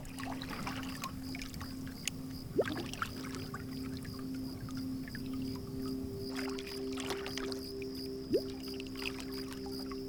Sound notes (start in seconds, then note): 0.0 water splashing; 3.1 crickets chirping